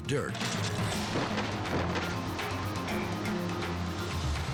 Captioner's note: loud thud